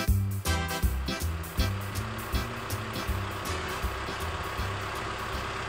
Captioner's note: forklift sounds